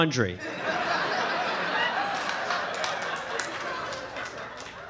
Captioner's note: audience laughing